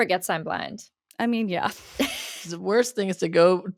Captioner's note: they laugh